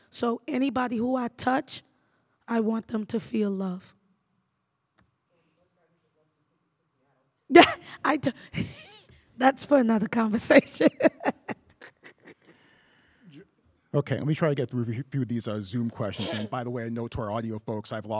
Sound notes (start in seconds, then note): 10.7 laughs; 10.7 chuckles